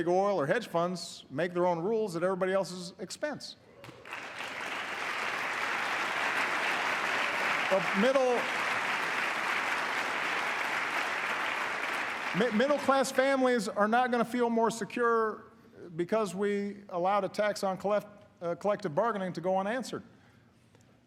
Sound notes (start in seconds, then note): 9.4 applause